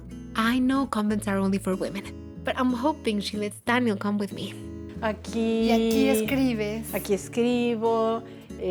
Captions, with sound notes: I know convents are only for women, but I'm hoping she lets Daniel come with me. - [Both speaking Spanish]